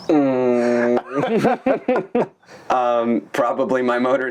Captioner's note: both laughing